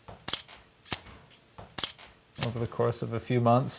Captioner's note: camera snapping